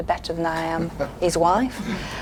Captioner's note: laughs